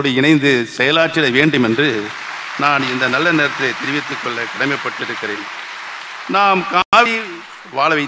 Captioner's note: applause